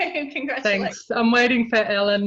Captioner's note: laughs